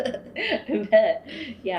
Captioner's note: laughter